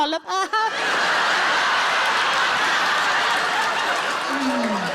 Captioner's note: audience laughing